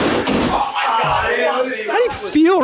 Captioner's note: door smashing; everyone shouting